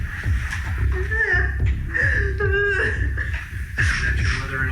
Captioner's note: sobs